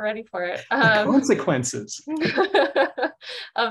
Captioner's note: laughing